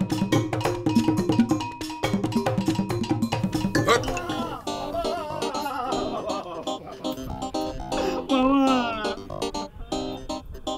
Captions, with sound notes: (Shrilling Gibberish) Haq Biscuit! Baba! Baba! (Crying)